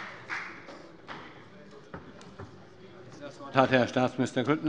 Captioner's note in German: Beifall bei der FDP